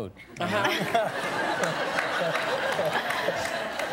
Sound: laughter

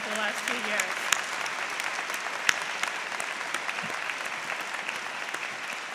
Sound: applause

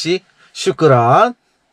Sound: in Arabic

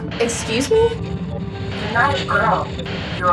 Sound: Static

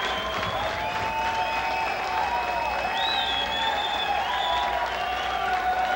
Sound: crowd cheering and whistling

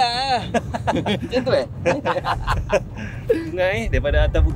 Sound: laugh

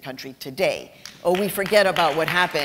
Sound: applause

